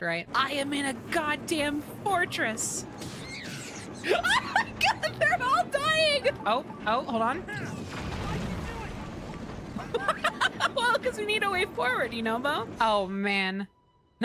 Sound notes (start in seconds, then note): 3.1 laughing; 9.7 laughter